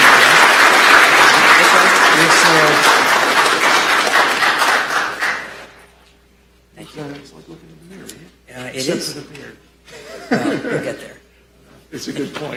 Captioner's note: applause